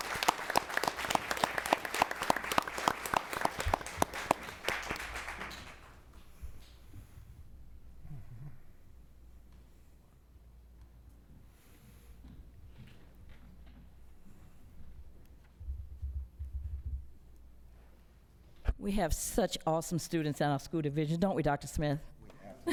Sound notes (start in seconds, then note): 6.3 applause